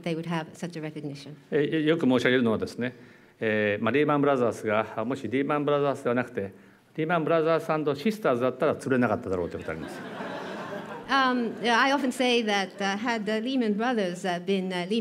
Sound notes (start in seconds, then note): 2.7 speaking japanese; 9.5 laughter